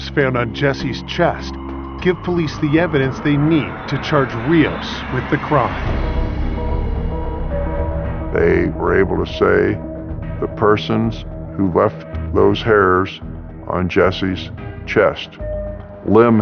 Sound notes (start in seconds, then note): 11.2 air whoososhing; 12.5 gentle musisic